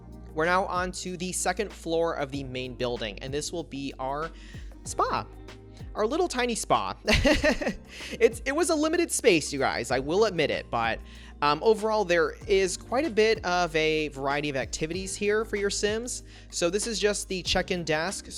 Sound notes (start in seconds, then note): 6.4 laughs